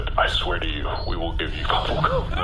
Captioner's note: laughing